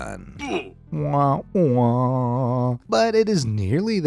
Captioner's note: imitates sad trombone